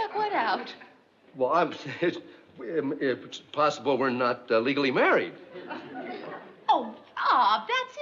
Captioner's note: stammers